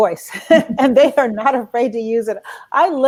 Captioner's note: laughs